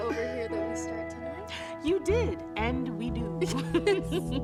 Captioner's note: laughs